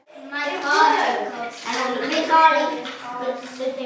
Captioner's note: children chatter